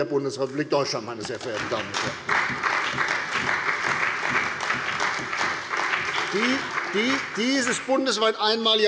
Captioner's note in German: Beifall bei der CDU und dem BÜNDNIS 90/DIE GRÜNEN